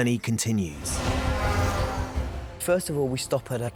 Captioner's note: horn honks